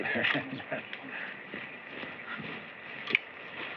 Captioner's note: chuckles